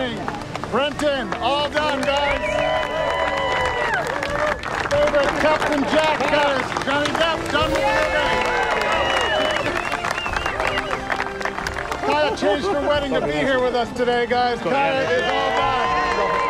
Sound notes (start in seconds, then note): 2.7 all cheering and applauding; 8.4 cheering continues; 15.2 crew exclaim and cheer